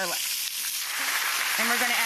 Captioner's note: audience clapping